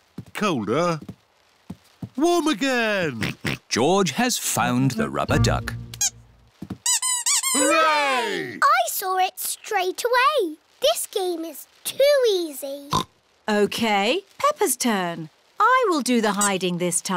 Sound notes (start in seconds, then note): 2.9 oinks; 6.0 duck squeaks; 12.7 oinks